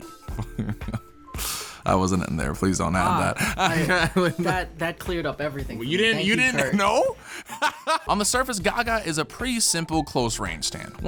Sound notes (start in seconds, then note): 0.3 laughs; 6.1 laughs